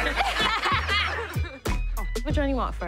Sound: laughing

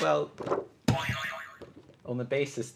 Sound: boing

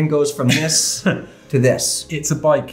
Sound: laughs

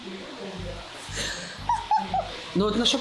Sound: laughing

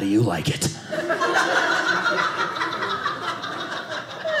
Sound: audience laughing

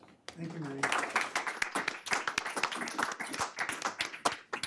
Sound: audience clapping

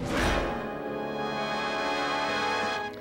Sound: whoosh; theme music

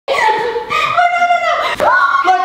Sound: laughs; screams

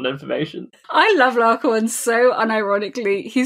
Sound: laughs

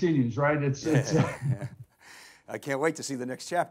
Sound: both chuckles

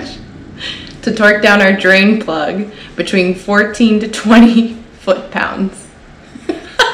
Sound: laughter

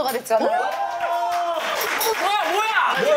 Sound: round of applause

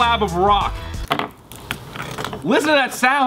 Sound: grinding

